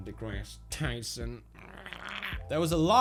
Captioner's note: intense gargling